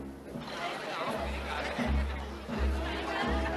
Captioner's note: all murmuring